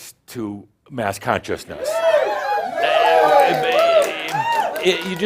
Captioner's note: audience shouts “Woo!” and cheers